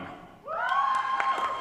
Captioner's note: cheering